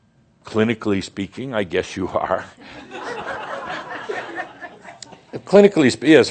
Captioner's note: laughter